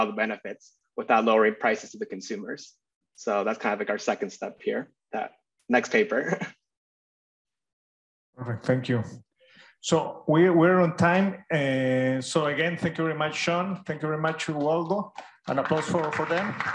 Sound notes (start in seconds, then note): 6.2 chuckles